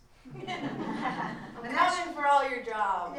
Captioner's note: laughter